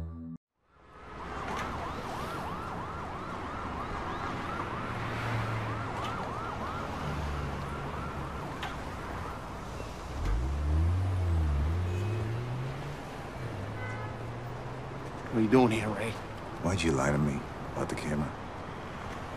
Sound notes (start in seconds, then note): 0.6 background noise, distant siren whooping